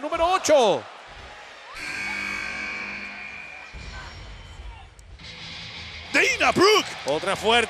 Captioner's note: applause